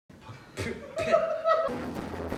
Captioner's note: spit